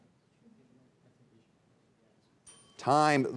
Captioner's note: students whispering; bell dinging